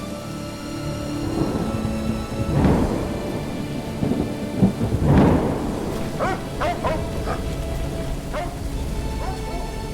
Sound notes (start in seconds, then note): 1.2 lightning striking; 5.9 dog barking